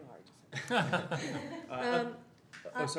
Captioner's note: laughter